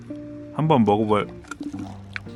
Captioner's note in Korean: 츄릅